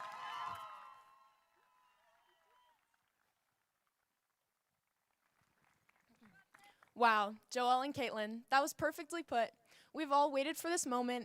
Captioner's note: applause